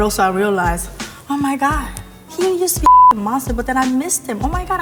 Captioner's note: beep